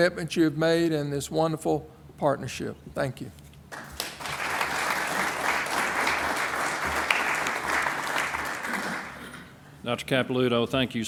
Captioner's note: applause